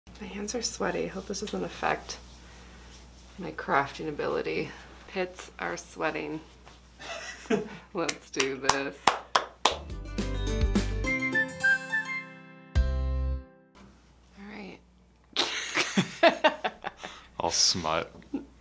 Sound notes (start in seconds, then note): 7.0 laughs; 8.3 claps; 9.7 playful music; 15.4 laughing